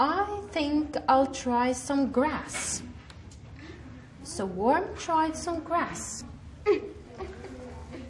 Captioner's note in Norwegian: Lærer leser fra boka på engelsk